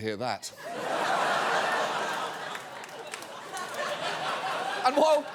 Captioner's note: audience laughing